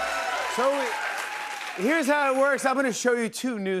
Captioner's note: cheers and applause